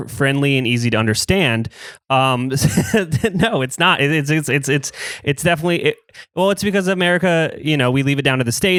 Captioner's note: laughs